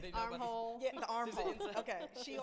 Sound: laughs

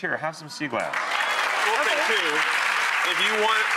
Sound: audience cheering

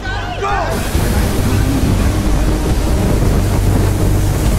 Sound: water hissing

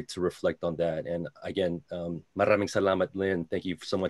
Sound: foreign language

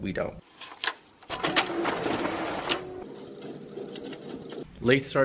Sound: copy machine whirring

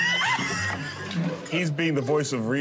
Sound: both laugh

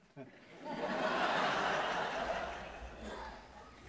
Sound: audience laughing

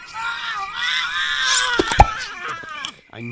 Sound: vampire screams; brain pop

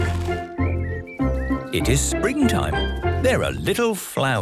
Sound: laughing; birdsong

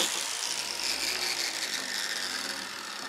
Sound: grinding machine stops

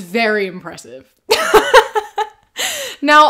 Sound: laughter

